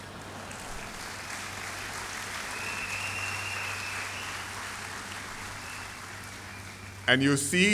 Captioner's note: laughter and applause